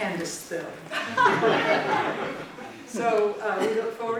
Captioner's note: laughter